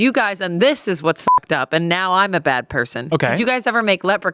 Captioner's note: beep